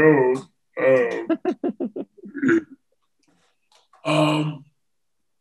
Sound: chuckles

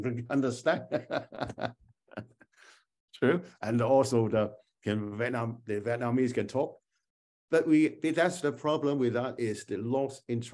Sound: laughter

